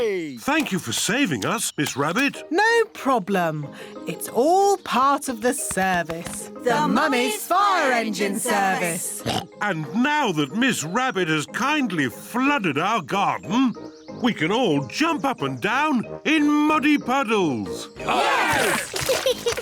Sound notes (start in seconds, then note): 9.1 oinks; 18.0 cheering; 18.0 laughs